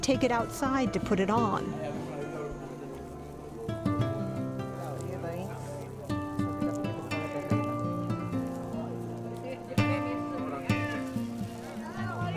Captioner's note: shouting spanish